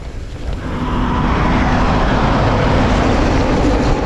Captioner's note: truck rumbling